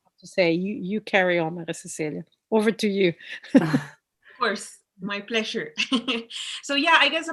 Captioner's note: chuckles